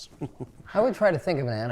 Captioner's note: chuckles